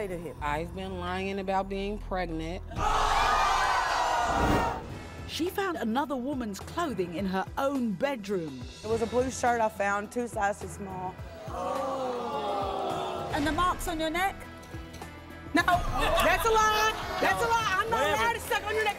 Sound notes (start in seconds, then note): 2.8 audience gasping and yelling; 11.6 audience groaning